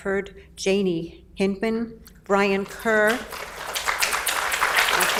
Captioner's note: audience applauds